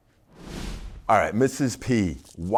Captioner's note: logo whooshing